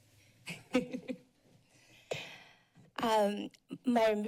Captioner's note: laughter